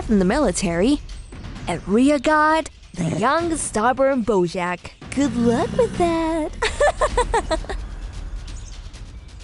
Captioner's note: Kristal laughing